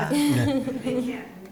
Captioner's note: laughter